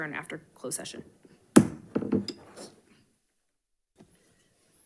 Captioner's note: gavel bangs